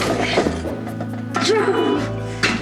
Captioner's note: grunts